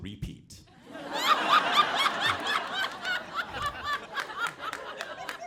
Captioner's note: audience laughing